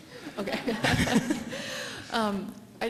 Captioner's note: laughter